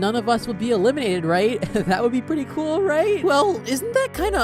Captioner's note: nervous giggle